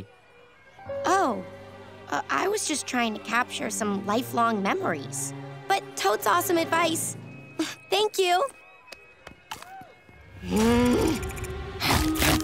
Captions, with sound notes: Oh. I was just trying to capture some lifelong memories, but totes awesome advice. Thank you. [groaning]